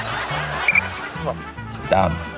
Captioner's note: blows whistle